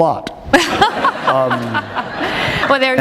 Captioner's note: laughter